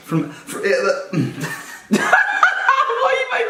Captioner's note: laughing